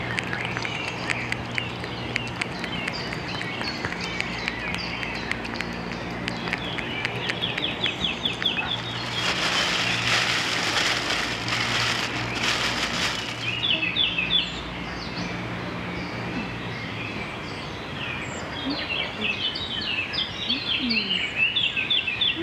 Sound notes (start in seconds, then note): 0.0 sound of cat eating wet food; 8.6 sound of bag rustling